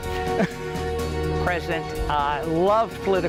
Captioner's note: laughs